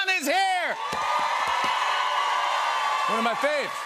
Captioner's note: cheers and applause